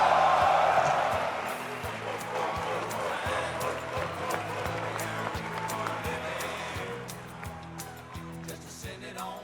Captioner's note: cheers and applause